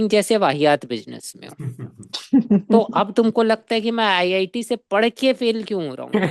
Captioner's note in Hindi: हंसी